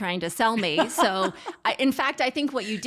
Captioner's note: laughs